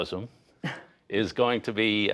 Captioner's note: laughter